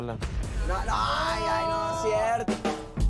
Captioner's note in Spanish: Exclamación